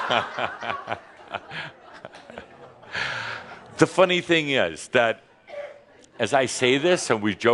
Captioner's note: laughter